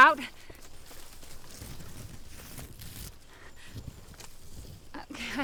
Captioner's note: footsteps crunching